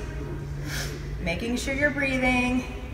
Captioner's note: deep breath